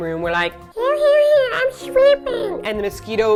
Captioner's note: cute voice